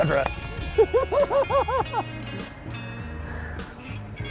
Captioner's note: chuckles